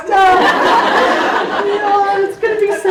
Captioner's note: audience applauds